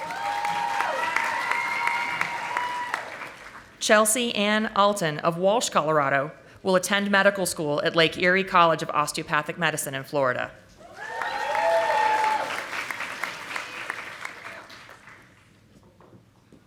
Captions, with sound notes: (audience applauding) Chelsea Ann Alton of Walsh, Colorado will attend medical school at Lake Erie College of Osteopathic Medicine in Florida. (audience applauding)